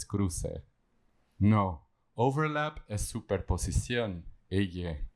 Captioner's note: spanish